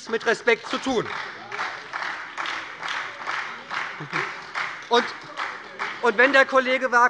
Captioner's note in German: Beifall bei der SPD und der LINKEN